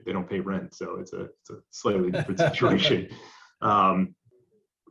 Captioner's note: laughs